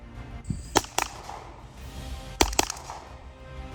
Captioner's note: gunshot